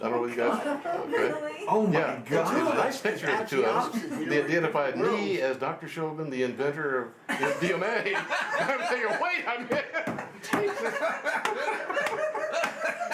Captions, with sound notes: - [Voiceover] Really? (laughs) - They identified me as Dr. Shulgin, the inventor of MDMA. (laughs) I'm saying, "Wait a minute!"